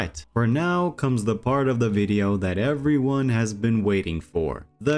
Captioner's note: none